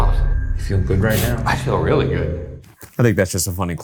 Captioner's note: sniffles